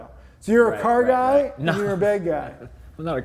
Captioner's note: chuckles